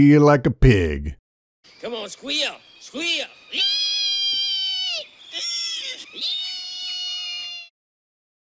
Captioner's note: squealing sound